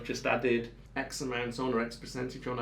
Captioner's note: none